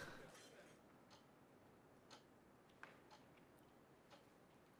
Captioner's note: clock ticking